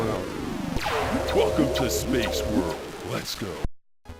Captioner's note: game audio